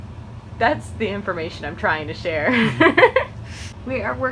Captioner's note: laughs